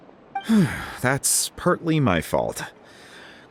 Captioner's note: sigh